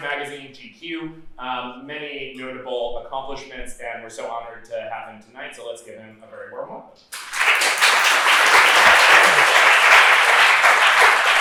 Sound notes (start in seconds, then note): 7.1 applause